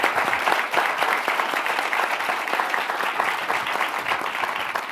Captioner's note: audience applauding